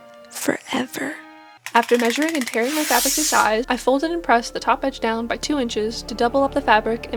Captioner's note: tape measure clicking and fabric ripping